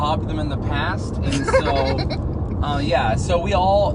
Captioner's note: laughs